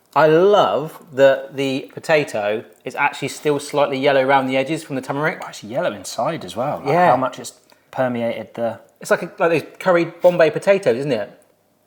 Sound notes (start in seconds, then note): none